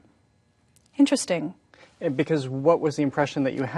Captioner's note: none